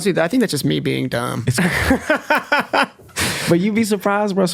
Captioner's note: laughs